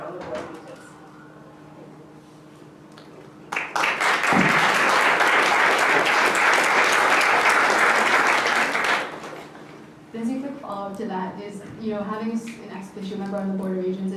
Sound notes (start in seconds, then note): 3.4 applause